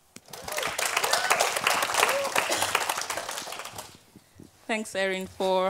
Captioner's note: audience clapping